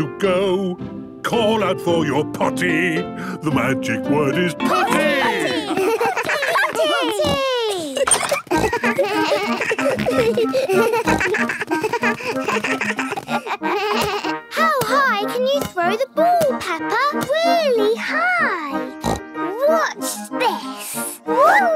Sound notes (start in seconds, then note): 7.1 giggles; 8.5 snorts, bleating; 19.0 snorts